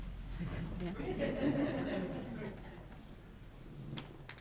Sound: audience laughs

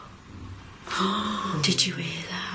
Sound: gentle thud

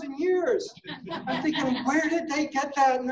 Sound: laughing

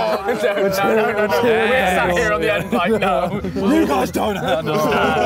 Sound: group chattering

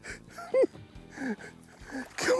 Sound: giggles

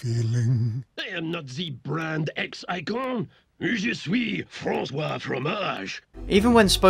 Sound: French accent

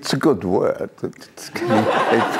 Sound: laughter

